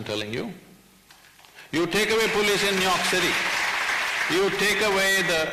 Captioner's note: applause